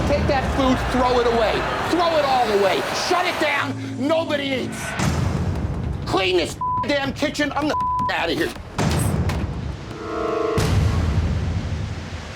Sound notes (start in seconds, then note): 7.7 beep; 8.9 door bangs